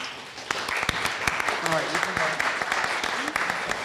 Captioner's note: audience applauding